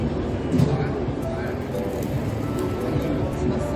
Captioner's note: Crunch